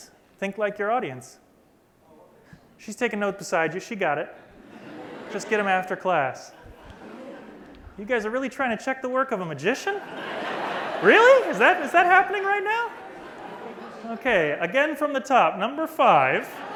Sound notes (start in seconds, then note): 6.5 laughter; 11.8 laughter